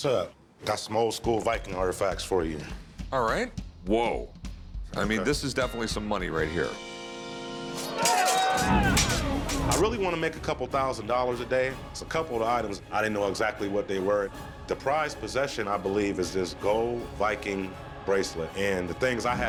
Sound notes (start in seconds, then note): 7.8 battle sounds